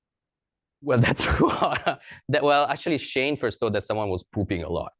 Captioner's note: laughs